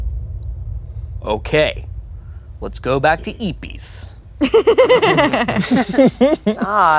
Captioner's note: everyone laughs